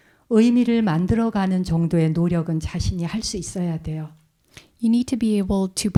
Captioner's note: speaking in Korean